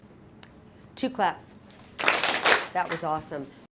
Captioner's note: all students clap twice